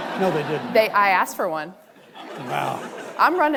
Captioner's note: audience laughing